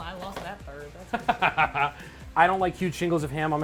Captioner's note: laughing